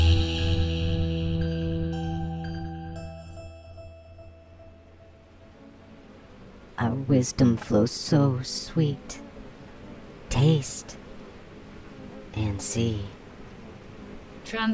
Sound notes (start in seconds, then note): 4.4 buzzing bees and low static hum fade in; 7.4 the Buzzing